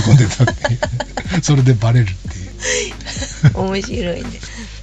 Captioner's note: laughs